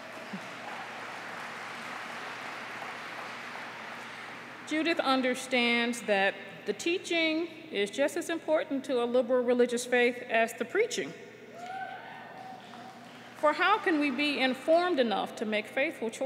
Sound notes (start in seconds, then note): 5.9 applause